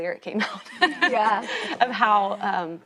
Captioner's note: laughing